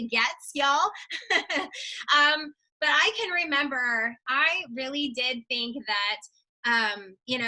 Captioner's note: laughs